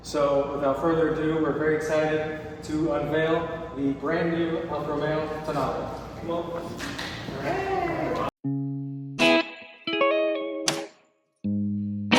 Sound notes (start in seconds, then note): 6.3 clap; 8.4 mellow electric guitar